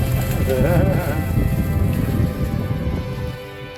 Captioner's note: laughs